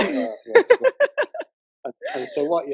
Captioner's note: laughter